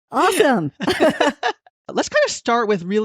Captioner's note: laughing